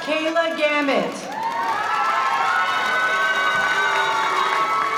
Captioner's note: audience cheering